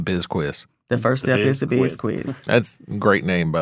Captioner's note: laughs